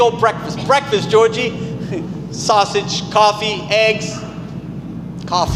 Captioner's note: chuckles